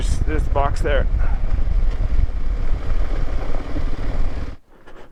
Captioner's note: bike engine revving